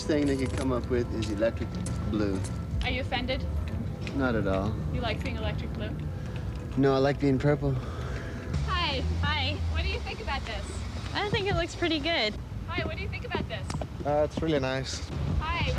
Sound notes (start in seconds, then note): 2.8 voiceover; 5.1 voiceover; 8.7 voiceover